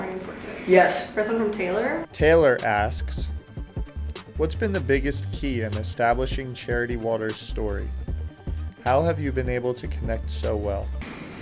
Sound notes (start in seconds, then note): 2.3 voiceover